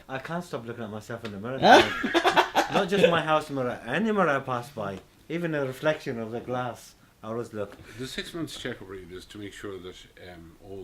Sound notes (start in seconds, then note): 1.6 laughing